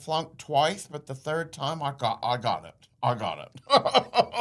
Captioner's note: laughs